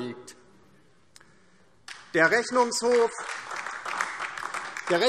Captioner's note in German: Beifall DIE LINKE und vereinzelt SPD